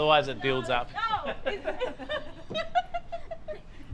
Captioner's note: laughter